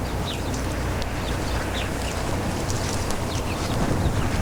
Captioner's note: birds chirping